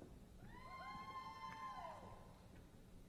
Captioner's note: applause